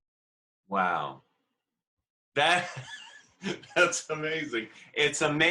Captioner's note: laughing